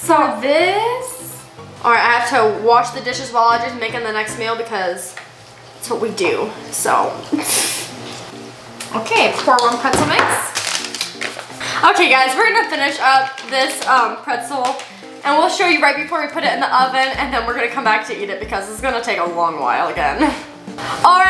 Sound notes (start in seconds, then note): 7.3 snickers; 7.9 bouncy, melodic music